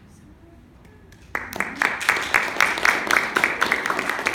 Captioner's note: applause